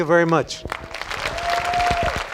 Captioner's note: applause